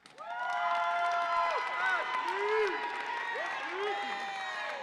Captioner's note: audience applauds and cheers